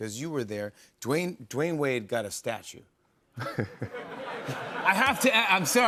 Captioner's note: laughs